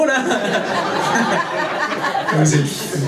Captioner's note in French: rires public